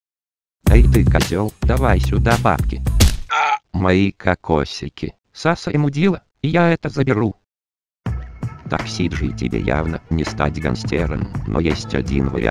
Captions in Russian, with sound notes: Эй ты, козёл давай сюда бабки. (удар) Мои кокосики -Сасай мудила и я это заберу -Так Cидоджи, тебе явно не стать гангстером, но есть один вариант